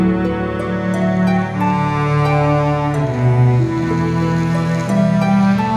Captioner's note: electric hair clippers